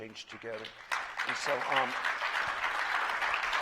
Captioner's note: applause